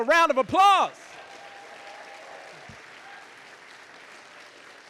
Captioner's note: audience applauding